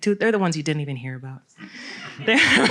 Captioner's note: laughter